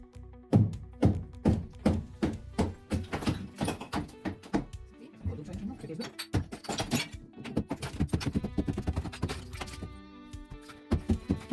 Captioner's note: hammering